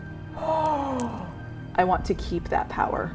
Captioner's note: gasping